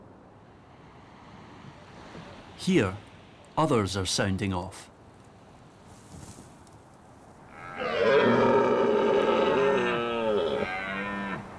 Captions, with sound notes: Here, others are sounding off. [bellowing]